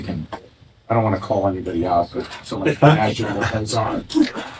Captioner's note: laughing